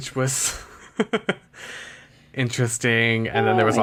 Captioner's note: laughs